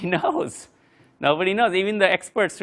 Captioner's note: laugh